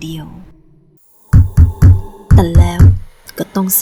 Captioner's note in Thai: เสียงทุบประตู